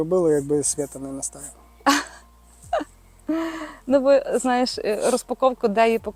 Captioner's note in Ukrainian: сопіння